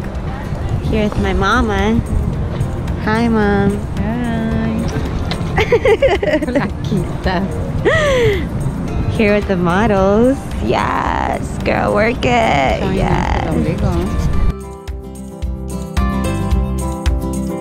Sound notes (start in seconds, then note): 5.5 laughter